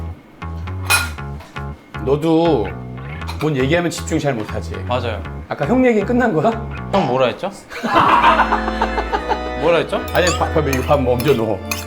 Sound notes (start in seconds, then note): 7.7 laughter